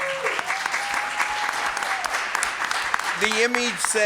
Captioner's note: applause and Cheering